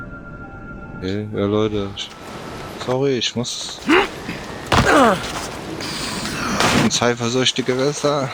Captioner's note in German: stöhnen